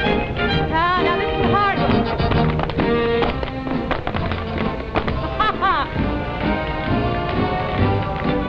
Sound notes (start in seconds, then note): 5.1 laughs